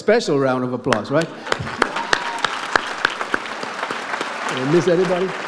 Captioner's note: audience applauds